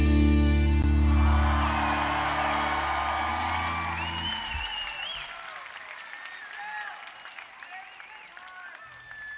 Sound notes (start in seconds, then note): 2.9 audience applauding; 2.9 audience cheering